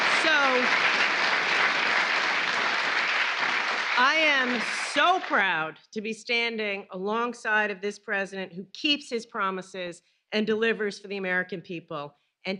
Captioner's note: applause